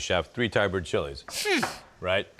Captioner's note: sniffs in disbelief